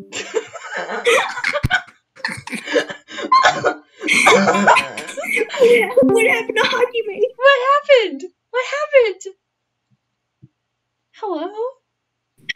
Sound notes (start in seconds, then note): 0.1 both laughing; 5.3 discord join call sound